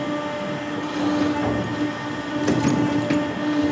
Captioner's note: whirring and rumbling